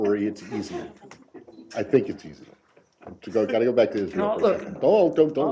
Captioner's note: laughter